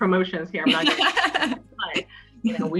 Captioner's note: laugh